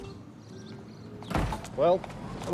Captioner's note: door banging